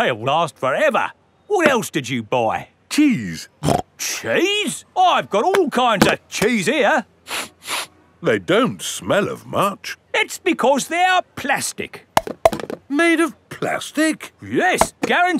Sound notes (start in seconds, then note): 3.6 snorts; 7.2 sniffs; 12.2 clunks